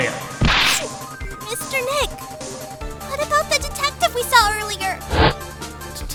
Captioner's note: sniff